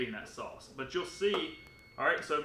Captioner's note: oven beeping